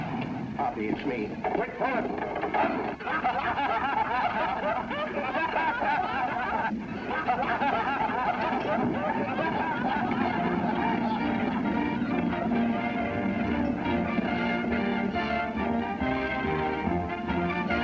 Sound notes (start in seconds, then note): 4.2 laughter